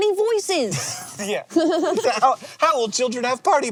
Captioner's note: laughs